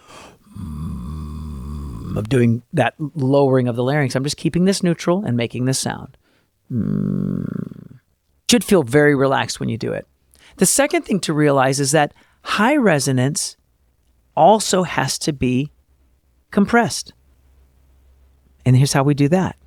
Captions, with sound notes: (low larynx fry sound.) I'm doing that lowering of the larynx. I'm just keeping this neutral and making this sound. (vocal fry sound.) It should feel very relaxed when you do it. The second thing to realize is that high resonance also has to be compressed, and here's how we do that.